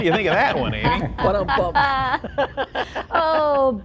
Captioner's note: laughing